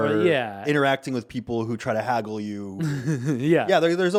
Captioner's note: chuckling